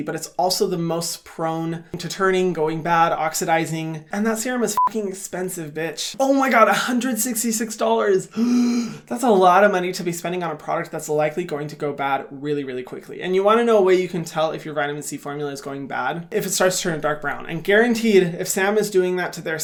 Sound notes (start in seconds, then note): 4.7 beep; 8.3 gasps